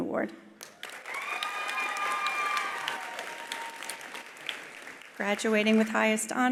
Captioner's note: attendees applauding; attendees cheering